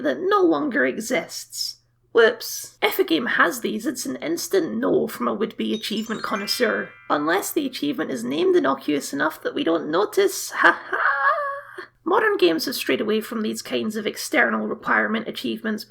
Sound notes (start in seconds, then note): 5.7 sparkle Noises